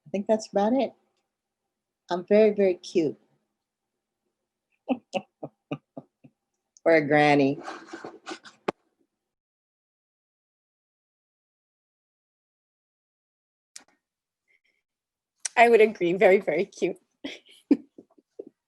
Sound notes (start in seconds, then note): 5.5 laughter